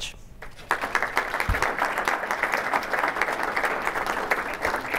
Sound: audience applauding

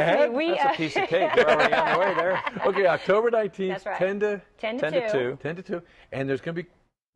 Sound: laughs

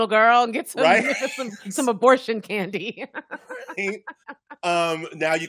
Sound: laughing

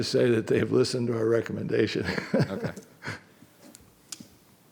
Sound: laughing

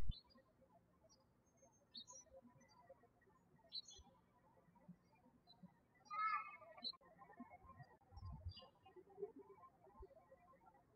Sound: birds chirping

